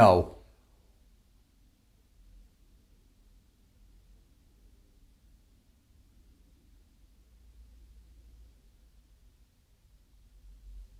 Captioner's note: silence